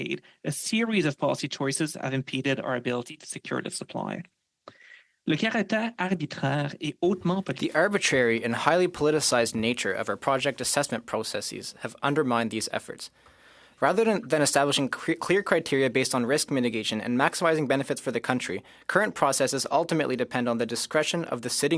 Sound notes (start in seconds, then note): 9.7 speaking French